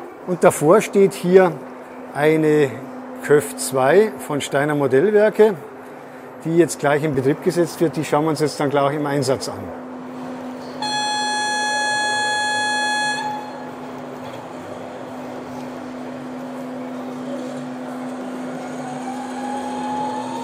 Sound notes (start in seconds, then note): 10.8 signal horn